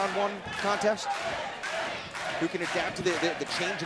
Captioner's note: crowd cheering